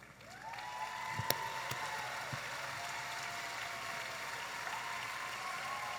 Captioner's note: audience applauding and cheering